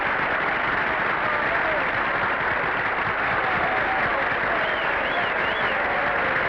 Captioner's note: audience applauding; audience whistling